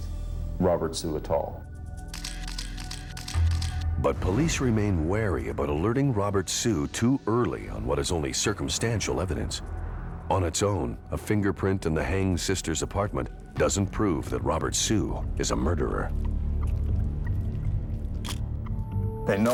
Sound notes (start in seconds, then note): 2.1 camera shutter clicks